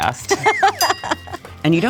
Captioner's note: laughs